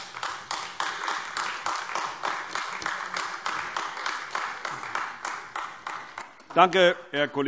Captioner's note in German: Beifall AfD